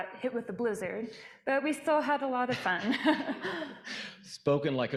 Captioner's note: laughs